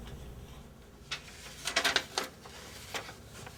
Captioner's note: paper rustling